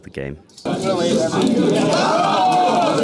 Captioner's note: heavy rain